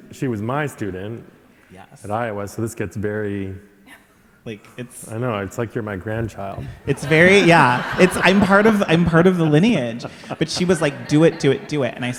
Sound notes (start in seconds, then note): 6.6 audience laughing